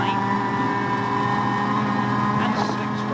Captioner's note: engine rasping